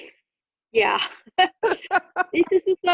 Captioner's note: laughter